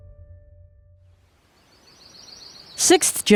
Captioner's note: birds singing